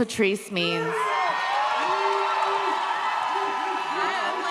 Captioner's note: audience cheers